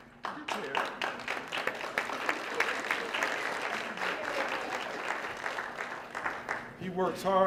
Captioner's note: applause